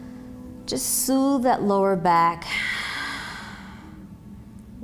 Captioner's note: exhaling